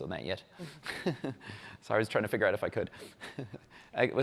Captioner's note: laughs